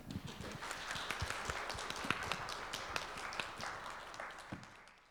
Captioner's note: crowd applauding